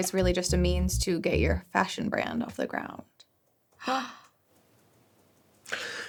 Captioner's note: gasps